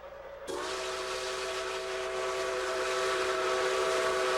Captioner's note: horn blowing